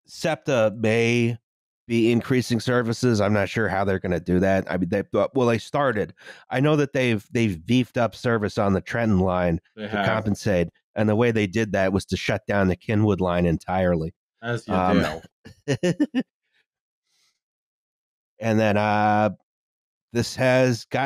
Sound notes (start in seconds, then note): 14.5 laughs